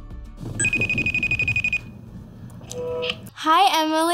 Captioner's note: phone Ringing